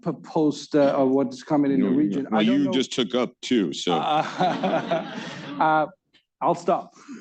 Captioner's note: laughter